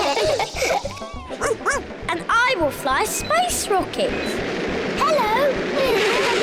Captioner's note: all laugh; barks; all laugh